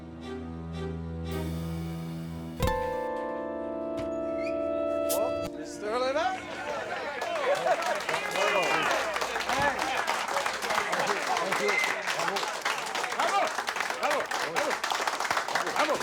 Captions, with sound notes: (suspenseful music) - Mr Levesque. (people clapping) - Thank you. (people clapping)